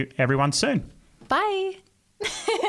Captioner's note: giggling